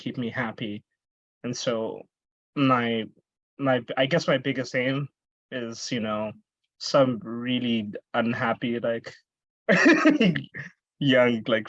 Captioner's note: laughs